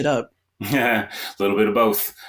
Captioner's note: chuckles